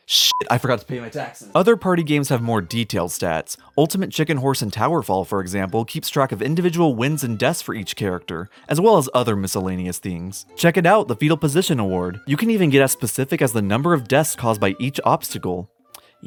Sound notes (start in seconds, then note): none